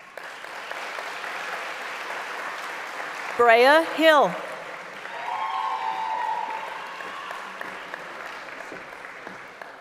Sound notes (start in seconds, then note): 3.4 applause; 8.7 cheering